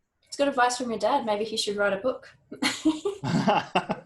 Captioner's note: laughs